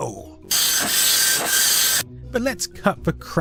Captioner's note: furiously loud dot matrix sounds